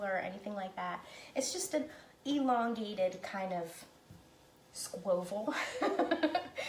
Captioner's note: laughing